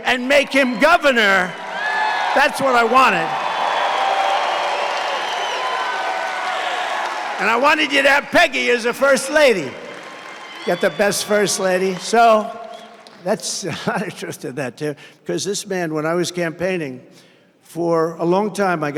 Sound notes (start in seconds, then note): 4.8 applause